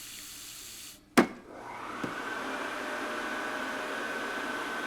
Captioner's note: fan whirring